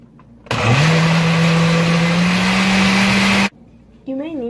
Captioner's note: blender noises